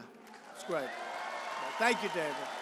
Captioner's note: applause